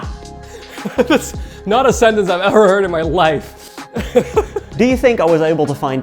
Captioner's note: laughing; laughs